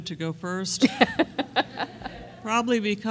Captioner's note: laughter